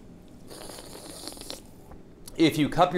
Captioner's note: slurping